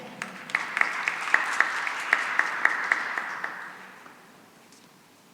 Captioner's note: applause